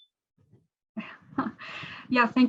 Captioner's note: laughs